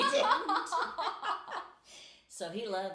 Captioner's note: laughing